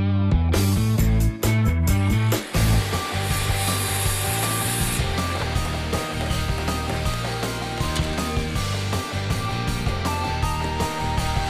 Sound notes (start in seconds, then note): 2.5 saw grinding